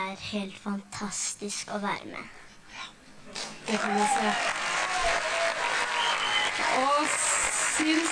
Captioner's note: applause